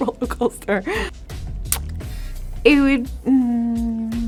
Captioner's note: Jillian laughing